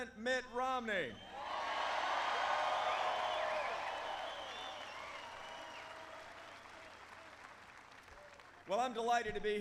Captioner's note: applause